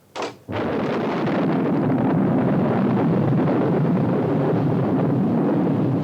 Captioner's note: door unlatches; thunder rumbles